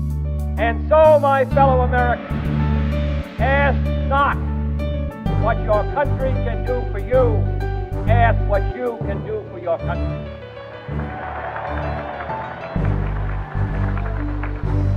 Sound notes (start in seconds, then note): 10.9 applause